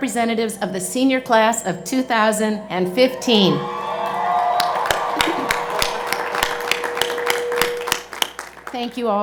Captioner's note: cheers and Applause